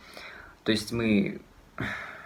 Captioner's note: sighs